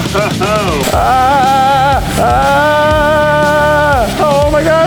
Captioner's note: laughing; screaming